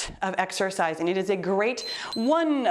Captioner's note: timer beeps